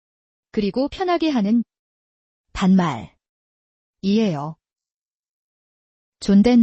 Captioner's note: casual speech